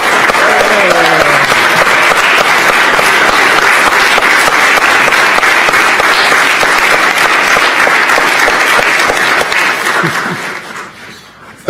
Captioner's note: applause